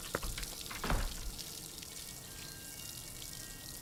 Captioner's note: door thuds